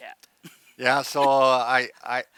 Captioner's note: laughs